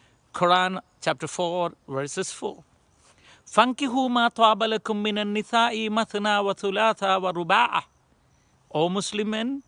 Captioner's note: in Arabic